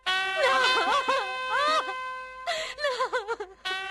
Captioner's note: crying